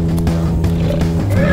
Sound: bear growls

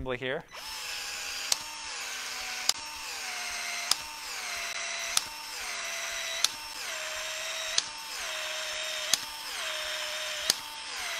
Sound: tool whirring

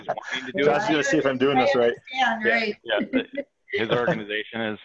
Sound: laughs

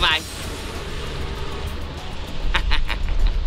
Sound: laughs

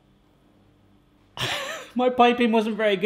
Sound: laughs

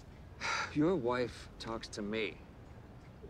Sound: sighing

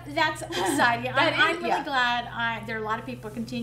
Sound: laughs

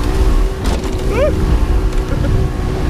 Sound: ooh!

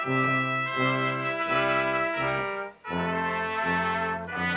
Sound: none

